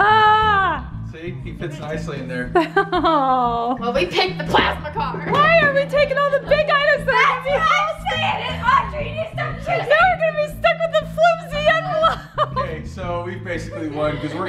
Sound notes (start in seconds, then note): 2.5 laughs